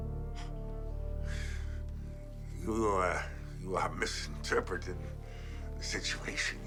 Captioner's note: suspenseful music continues; exhales